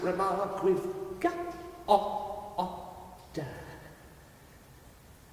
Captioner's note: creature stammering